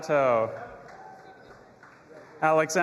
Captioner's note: audience applauding and cheering